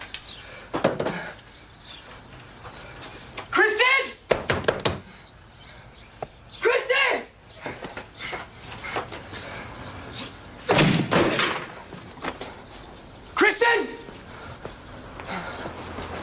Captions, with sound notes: Kristen! Kristen! (door bashes in) Kristen!